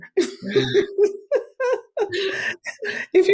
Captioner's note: laughing